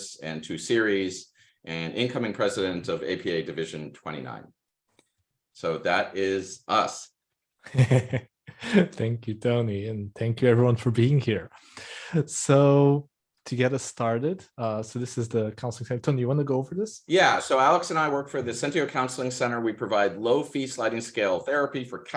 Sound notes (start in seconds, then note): 7.6 laughing